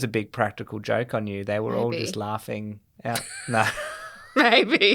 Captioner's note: laughter